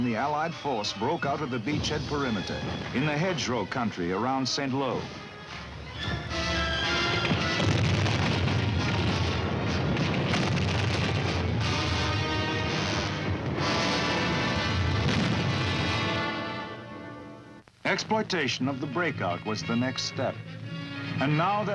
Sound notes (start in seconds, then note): 8.9 bomb exploding; 12.9 dramatic music